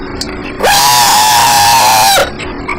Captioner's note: screaming